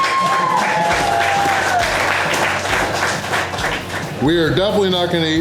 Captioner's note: crowd applause